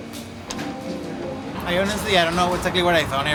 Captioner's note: birds chirping